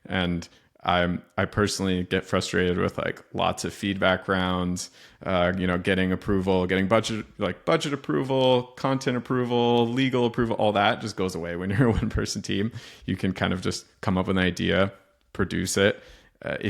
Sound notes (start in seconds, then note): 11.6 chuckles